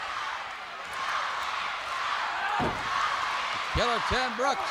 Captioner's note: crowd chants "Go, Lance, go"